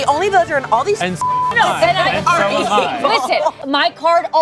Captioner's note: beep